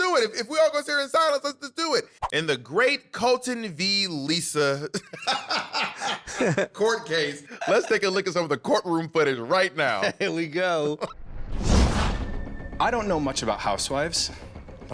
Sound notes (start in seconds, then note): 5.5 laughing; 12.7 whoosh